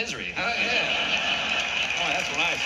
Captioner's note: laughter